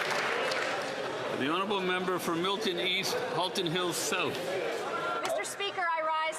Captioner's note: some Applause